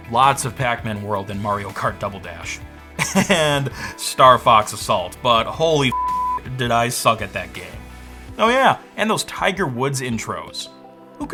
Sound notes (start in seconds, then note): 5.9 beep